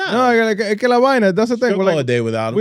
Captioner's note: speaking In Foreign Language